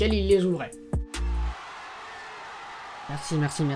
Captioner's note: applause